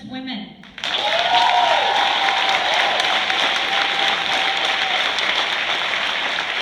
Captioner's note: cheers, applause